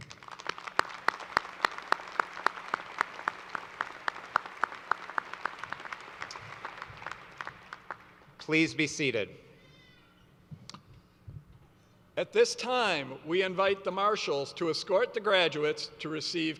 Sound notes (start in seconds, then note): 4.7 applause